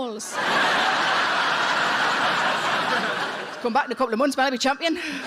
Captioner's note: audience laughing